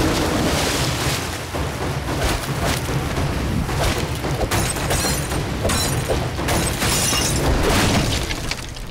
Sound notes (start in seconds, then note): 3.8 shattering